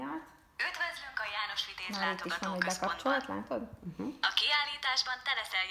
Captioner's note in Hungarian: tablet sound